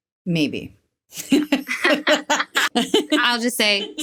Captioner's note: women laughing